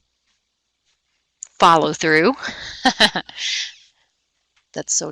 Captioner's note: laughing